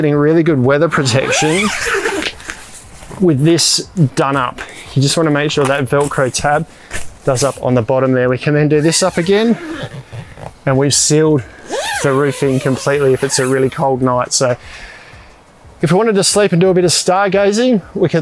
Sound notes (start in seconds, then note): 1.0 zipping; 11.6 zipping